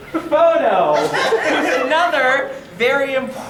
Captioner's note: audience laughter